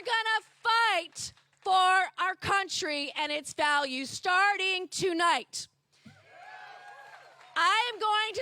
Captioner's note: cheers and applause